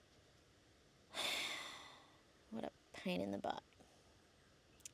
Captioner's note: sighs heavily again